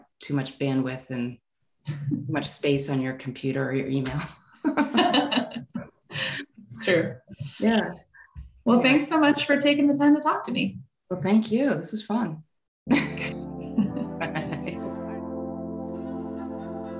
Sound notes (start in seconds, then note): 4.8 laughing; 12.9 electronic music